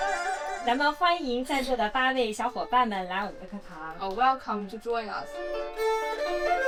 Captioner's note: teacher speaks in Chinese